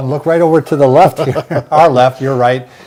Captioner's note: both laughing